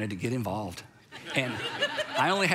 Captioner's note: crowd laughing